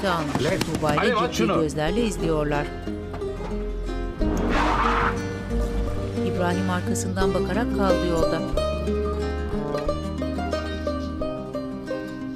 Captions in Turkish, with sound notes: Alev! Alev, aç şunu! (Araba sesi) (Müzik - Duygusal)